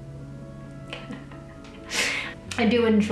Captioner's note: laughing